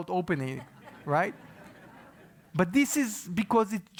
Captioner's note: laugh